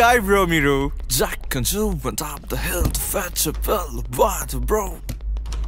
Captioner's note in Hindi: एक गाना गुनगुनाते हुए